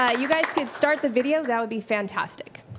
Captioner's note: applause